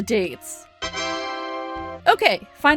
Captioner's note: TA DA sound effect